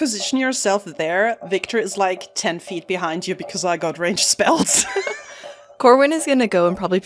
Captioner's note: laughs